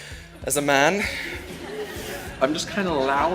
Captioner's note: audience laughs